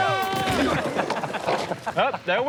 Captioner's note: laughing